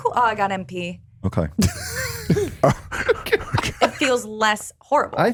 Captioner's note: laughing